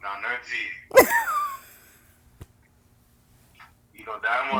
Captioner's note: laughs